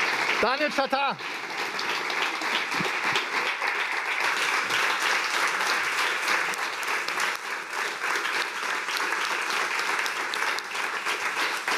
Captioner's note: applause